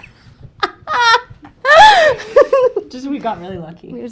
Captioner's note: laughing